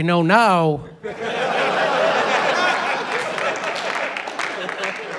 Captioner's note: laughter